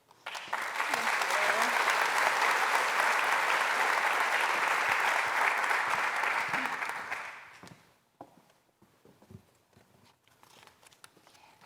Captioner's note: applause